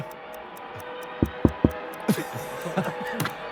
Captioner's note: knocks; Sidemen laugh